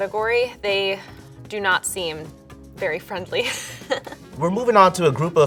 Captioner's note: chuckles